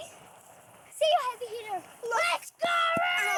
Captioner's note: kids exclaiming